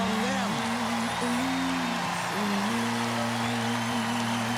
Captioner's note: cheers and applause